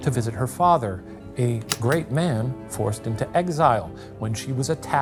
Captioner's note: projector clicking